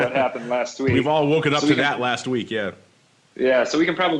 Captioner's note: laughs